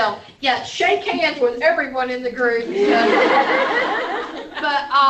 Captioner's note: laughter